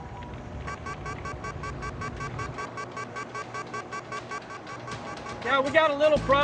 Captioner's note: alarm beeping